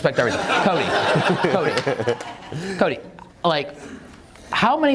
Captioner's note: audience laughs